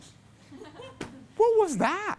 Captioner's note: class laughs